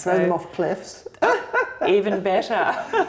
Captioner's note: laughter